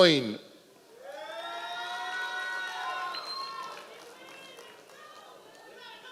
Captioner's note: members of the audience cheering